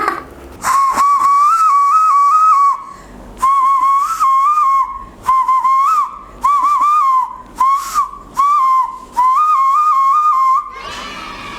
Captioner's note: whistling